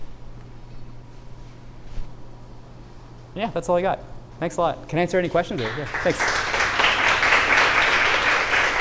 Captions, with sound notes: Yeah, that's all I got. Thanks a lot. Can answer any questions? Or yeah, thanks. [APPLAUSE]